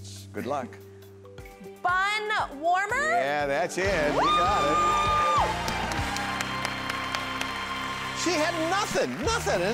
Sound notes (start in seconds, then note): 5.2 clapping; 6.7 audience applauding